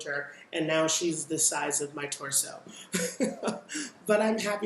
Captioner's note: laughs